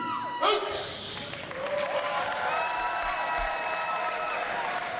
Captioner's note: crowd cheering